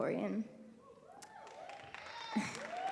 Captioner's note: cheering